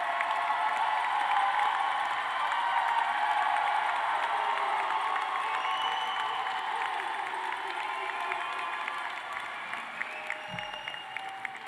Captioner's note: cheers and applause